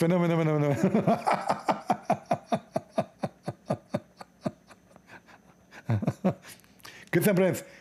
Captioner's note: Ketawa